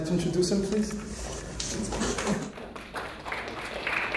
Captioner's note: clapping